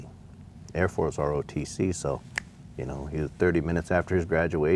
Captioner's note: snapping